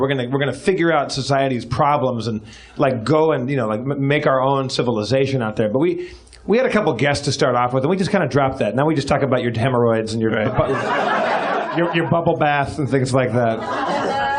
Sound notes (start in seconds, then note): 10.4 laughs